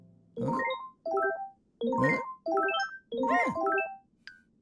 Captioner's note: electronics warbling